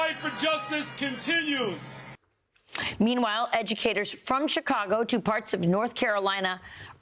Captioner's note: cheers and applause